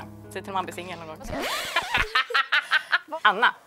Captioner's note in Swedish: Skratt